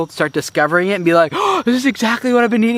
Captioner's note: gasping